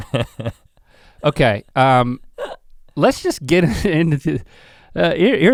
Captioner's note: chuckles